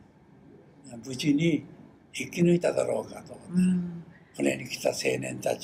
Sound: foreign language

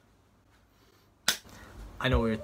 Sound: clap

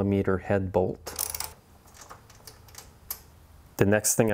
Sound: bolt squeaking

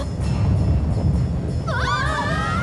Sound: rumbling

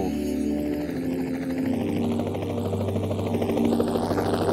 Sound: helicopter whirring

